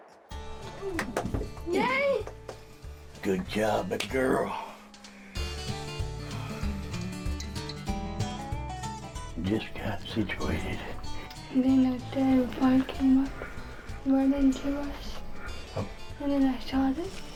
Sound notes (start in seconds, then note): 0.4 upbeat music plays; 0.6 claps; 6.4 hands slap; 10.4 talks softly